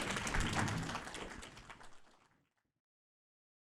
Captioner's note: applause